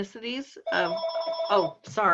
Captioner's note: phone ringing